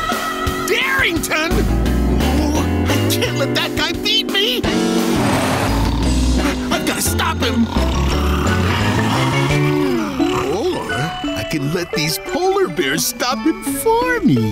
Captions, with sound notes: Darrington! Oh, I can't let that guy beat me. I gotta stop him! [snoring] Or... I can let these polar bears stop him for me!